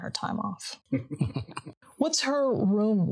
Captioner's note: group laughing